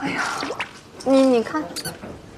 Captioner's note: sighs